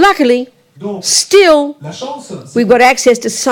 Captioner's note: speaking in French